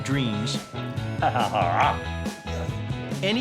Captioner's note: chuckles